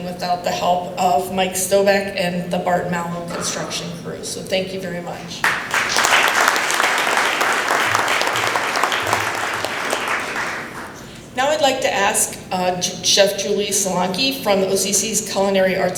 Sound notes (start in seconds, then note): 5.4 applause